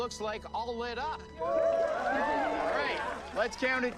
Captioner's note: audience cheering